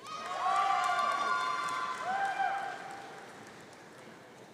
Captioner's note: audience cheering